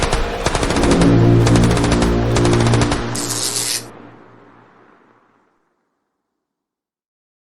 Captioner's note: dramatic music; electricity crackling